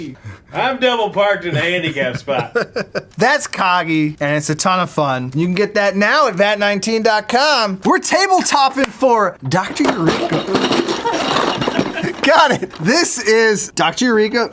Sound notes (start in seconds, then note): 1.4 laughing; 9.5 clattering